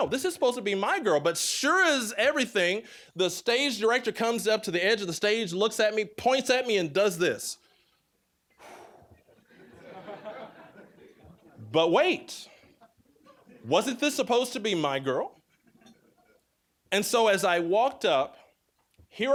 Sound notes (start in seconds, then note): 8.5 exhaling; 9.3 audience laughing